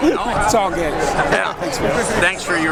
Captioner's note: laughs